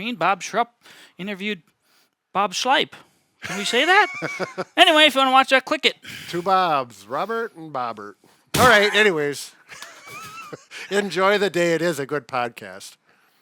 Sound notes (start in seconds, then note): 3.4 laughing